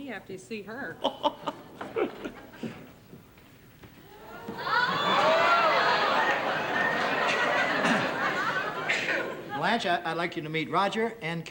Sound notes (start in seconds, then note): 1.0 Roger laughs; 4.1 audience gasps